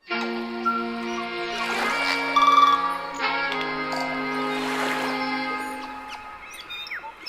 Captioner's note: light hearted music; birds chirping; waves crashing